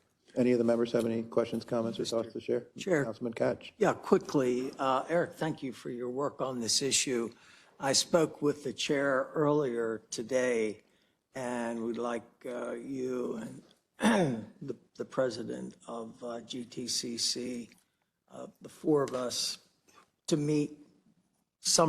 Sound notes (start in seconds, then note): 14.0 cough